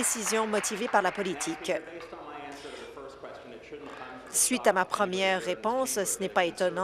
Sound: applause

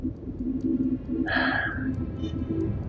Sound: sighs

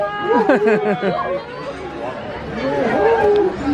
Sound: chuckles

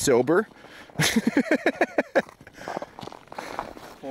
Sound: laughing

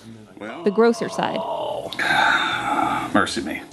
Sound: moans

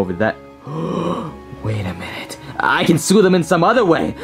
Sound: gasps

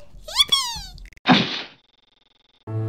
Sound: poof of tragedy

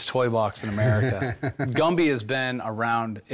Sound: laughs

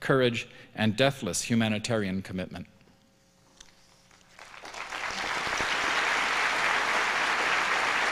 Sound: applause

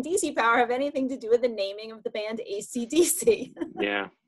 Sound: chuckles

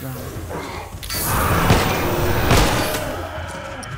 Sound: flames whoosh; Bloater bellows in pain; Bloater whimpers and grows quiet

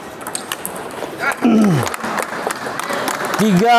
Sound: applause

